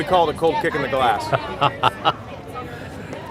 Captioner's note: laughter